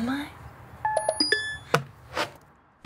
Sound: phone notification

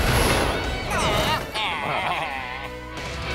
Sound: baaing

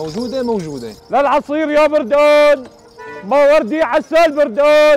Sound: shouting popular Syrian selling words

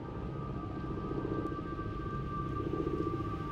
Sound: airplane rumbles

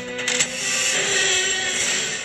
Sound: wheels screeching

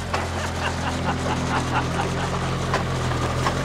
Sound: men laugh

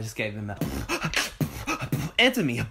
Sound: beatboxes

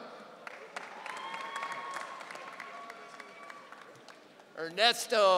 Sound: audience cheering

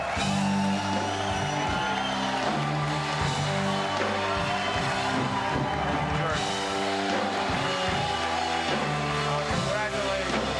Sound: cheers and applause

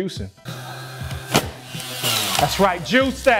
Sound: juicer whirring

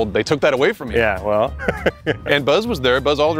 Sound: laughs

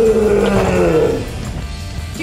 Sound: growl

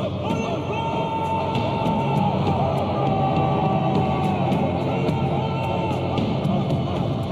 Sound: men shouting; suspenseful music

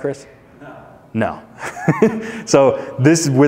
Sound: chuckles

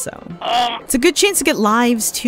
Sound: Kremling grunt

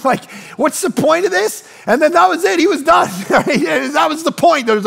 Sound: laughs

